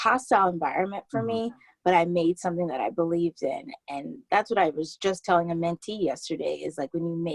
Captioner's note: laughs